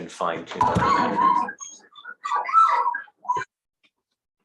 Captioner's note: monkeys singing